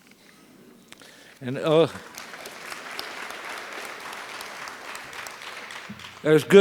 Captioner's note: applause